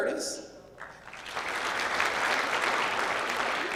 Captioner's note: clapping